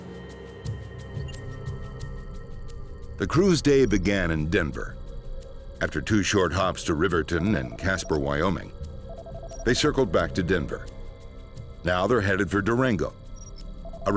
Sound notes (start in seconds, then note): 0.3 foreboding music; 3.3 voiceover